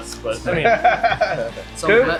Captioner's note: laughing